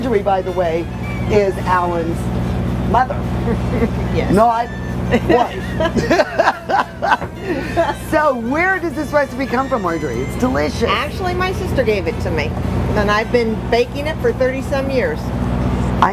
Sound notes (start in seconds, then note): 7.8 laughter